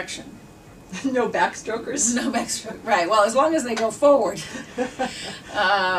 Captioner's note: both laugh